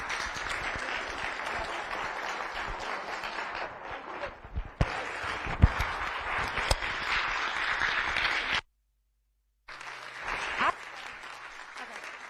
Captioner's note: applause